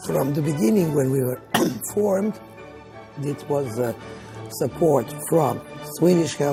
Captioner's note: cough